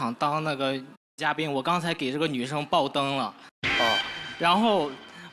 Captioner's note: a buzzer signal